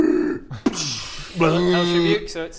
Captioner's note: hyrrgggh; booosch; bleerrggggh